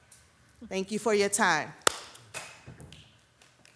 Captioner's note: claps